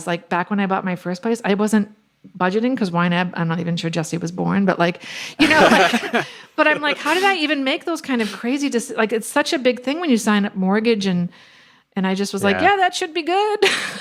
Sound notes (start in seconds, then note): 5.4 laughs